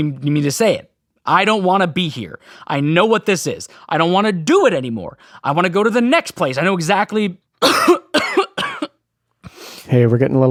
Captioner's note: coughing fit